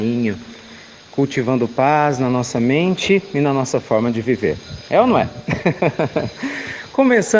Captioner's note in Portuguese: Risos